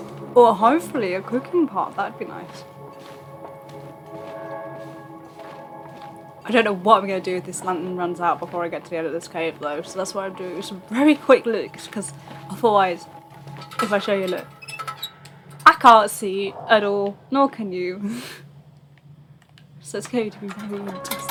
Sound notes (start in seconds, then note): 17.9 laughs